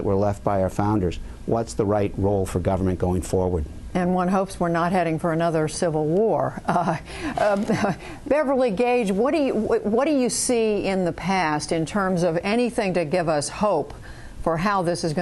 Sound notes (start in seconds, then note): 6.6 laughter